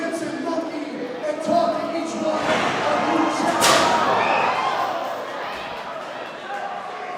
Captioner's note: crowd cheering